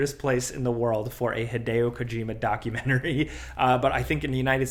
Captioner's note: laughs